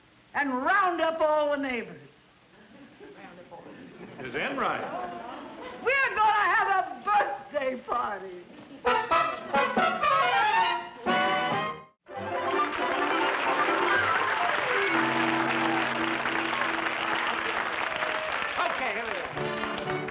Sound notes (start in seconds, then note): 8.8 cheerful music; 12.1 applause; 19.3 bouncy music